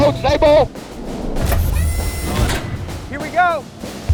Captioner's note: machine whirs